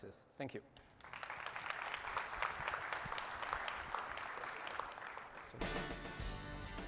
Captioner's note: applause